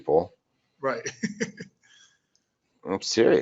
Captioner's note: laughing